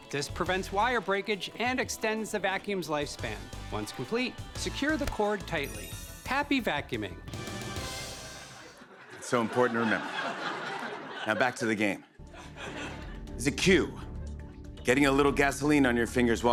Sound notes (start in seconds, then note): 8.3 laughter